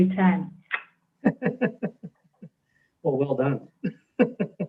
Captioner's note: chuckles